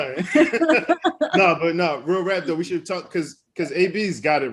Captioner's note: laughs